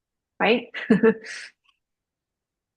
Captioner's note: laughs